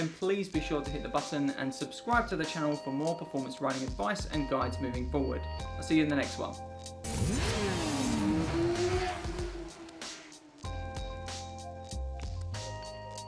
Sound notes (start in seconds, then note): 7.0 engine revving; 10.4 gentle music